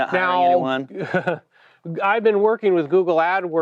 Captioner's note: laughs